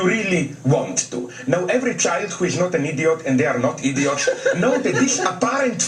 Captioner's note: laugh